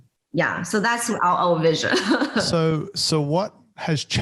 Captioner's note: laughs